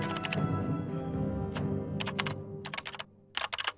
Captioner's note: typing noise